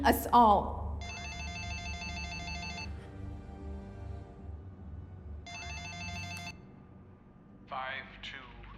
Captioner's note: phone rings